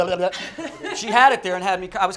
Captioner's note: laughs